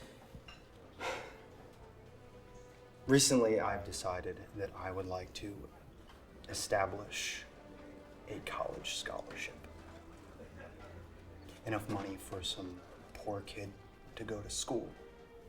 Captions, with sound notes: (Kevin sighs) Recently, I've decided that I would like to establish a college scholarship, enough money for some poor kid to go to school.